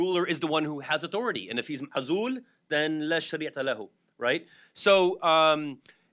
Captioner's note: speaking foreign language